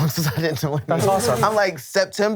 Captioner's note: laughs